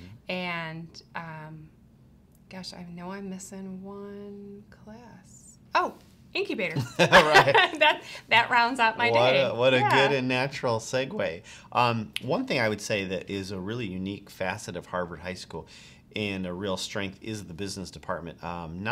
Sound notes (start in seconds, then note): 6.8 all laughing